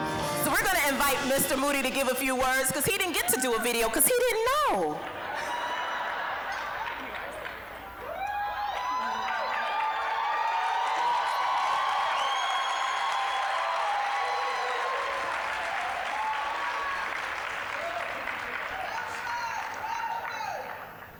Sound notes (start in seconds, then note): 0.0 uplifting music; 5.3 applause, cheering; 5.3 audience laughing; 8.0 applause, cheering